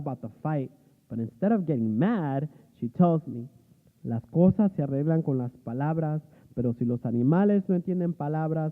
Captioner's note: speaking spanish